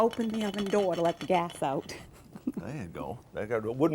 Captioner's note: chuckles